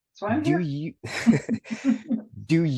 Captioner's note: laughter